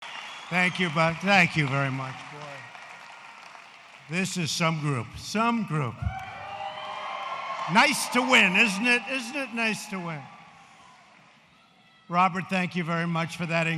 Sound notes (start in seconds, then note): 0.0 applause